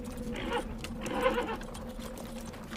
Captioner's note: horse neighing